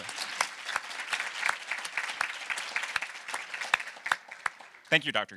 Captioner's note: audience applauding